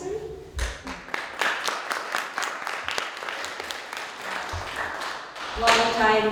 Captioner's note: audience Applause